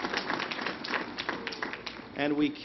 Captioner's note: applause